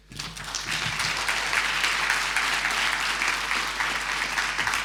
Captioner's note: audience applauding